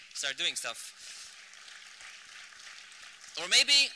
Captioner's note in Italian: applausi